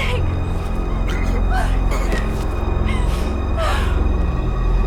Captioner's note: groans; dramatic music